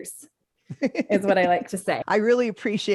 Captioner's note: chuckles